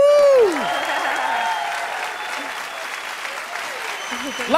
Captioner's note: cheers and applause